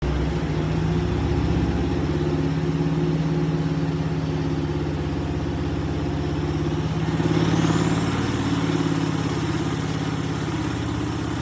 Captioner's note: engine running